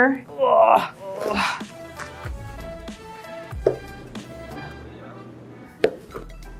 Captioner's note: grunts